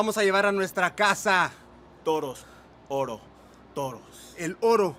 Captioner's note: speaking in foreign language